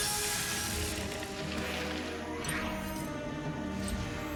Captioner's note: zap; dramatic music